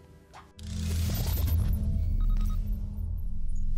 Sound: electronic beeping

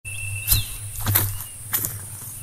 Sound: footsteps

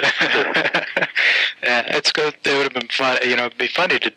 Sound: laughter

